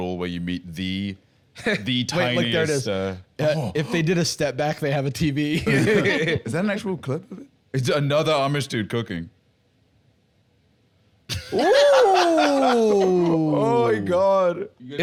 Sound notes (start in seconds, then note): 5.6 laughs